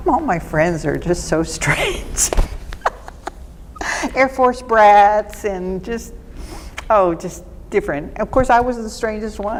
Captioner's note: laughing